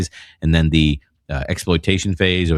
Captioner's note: uh